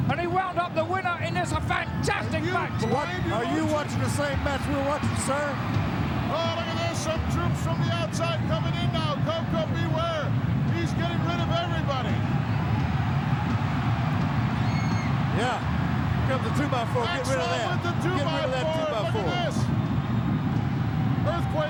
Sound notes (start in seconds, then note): 13.8 crowd cheering